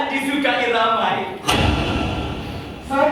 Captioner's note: SFX: Spotlight